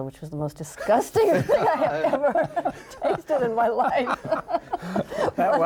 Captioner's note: laughs; laughing